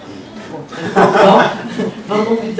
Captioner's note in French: rires